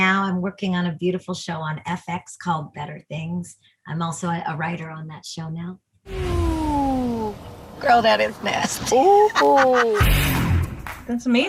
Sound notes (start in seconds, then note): 8.4 laughs